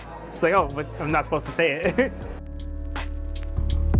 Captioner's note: chuckles; smooth music continues